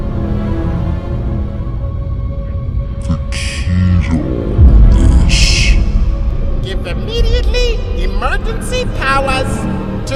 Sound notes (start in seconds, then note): 4.6 boom